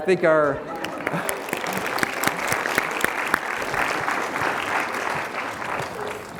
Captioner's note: applause